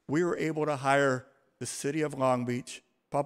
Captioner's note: none